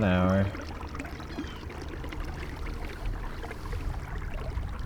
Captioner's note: water flowing